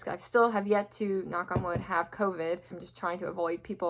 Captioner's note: knock on wood